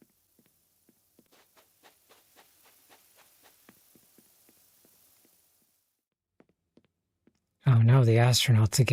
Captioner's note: silence